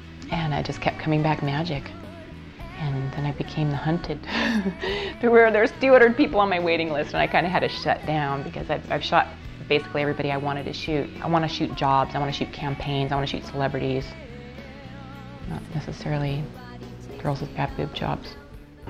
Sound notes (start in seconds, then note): 4.2 laughing